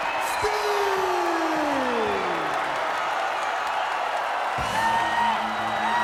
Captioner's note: crowd cheers